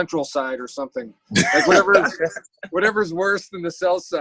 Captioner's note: laughs